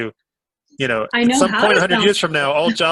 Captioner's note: laughs